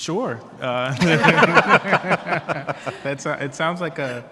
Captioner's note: panelists laughing